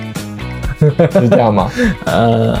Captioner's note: haha